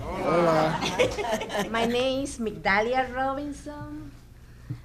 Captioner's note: audience laughing